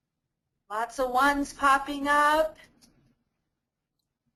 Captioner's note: voiceover